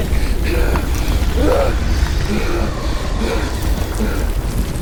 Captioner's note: panting; rocks falling; entity screams